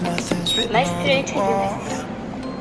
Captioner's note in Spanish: el escáner emite un pitido; la máquina habla coreano